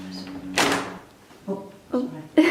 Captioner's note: sound of door opening